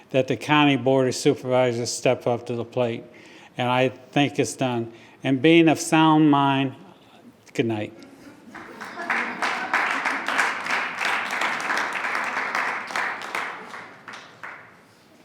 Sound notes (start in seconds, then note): 7.9 attendees chuckling; 8.4 attendees clapping